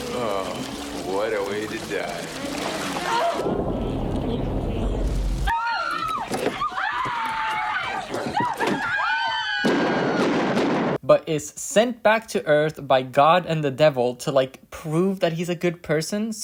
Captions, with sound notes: What a way to die *Women screaming* *Gunshots* but is sent back to Earth by God and the devil to like prove that he's a good person